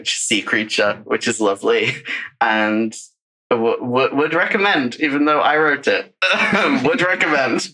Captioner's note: laughs